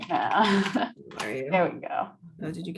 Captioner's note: laughs